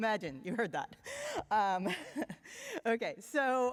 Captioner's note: chuckles